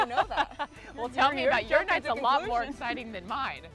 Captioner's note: laughs